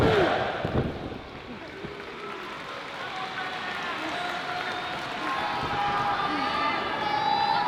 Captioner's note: applause